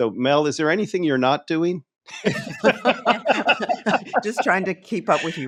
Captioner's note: laughing